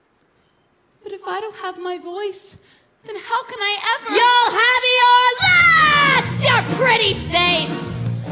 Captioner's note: screaming